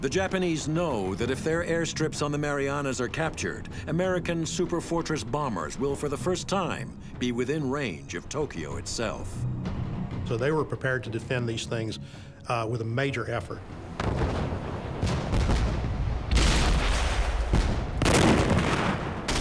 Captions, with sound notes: The Japanese know that if their airstrips on the Marianas are captured, American super fortress bombers will for the first time be within range of Tokyo itself. - So they were prepared to defend these things with a major effort. (cannon shots exploding)